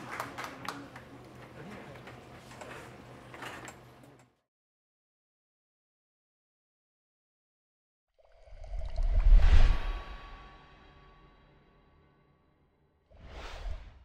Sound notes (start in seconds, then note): 8.5 water sploshes; 8.6 digital noise whooshes